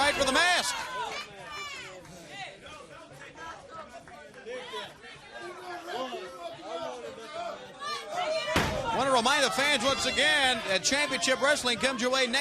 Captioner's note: crowd chatter